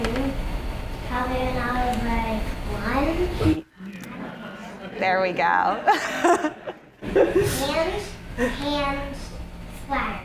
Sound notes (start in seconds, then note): 3.8 audience laughing